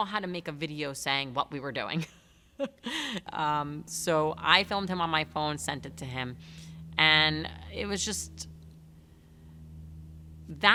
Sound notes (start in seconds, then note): 5.7 chuckles